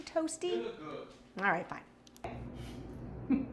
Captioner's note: laughs